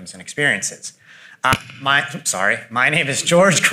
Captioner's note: mic thuds